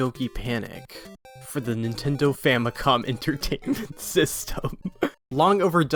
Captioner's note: laughing